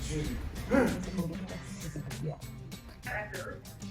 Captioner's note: coughs